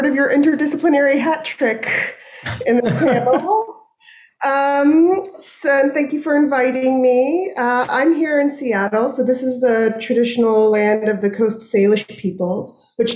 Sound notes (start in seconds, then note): 2.4 chuckling